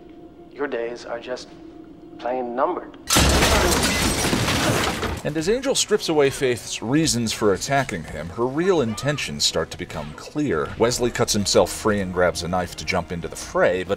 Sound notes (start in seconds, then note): 3.1 crash